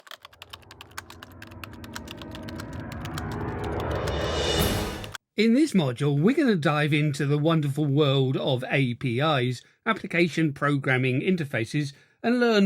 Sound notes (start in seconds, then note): 0.0 typing sounds